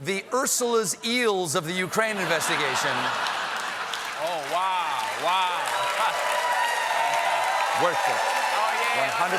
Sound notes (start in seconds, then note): 2.0 laughter; 2.5 applause; 6.2 cheers and applause